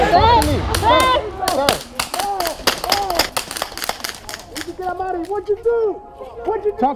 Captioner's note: multiple people yelling in background; multiple gunfire